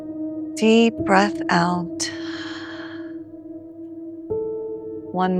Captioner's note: exhales